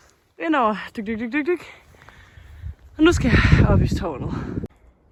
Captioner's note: more walking sounds